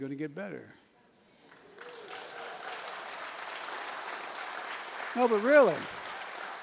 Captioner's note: applause